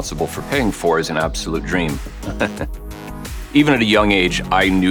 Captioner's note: laughs